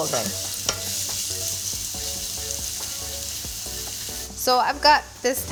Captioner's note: oil simmering; soft music